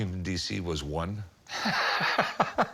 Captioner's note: laughing